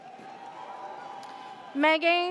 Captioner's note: audience cheers